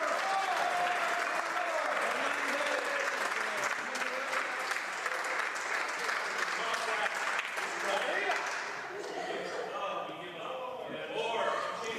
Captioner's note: cheering and Applause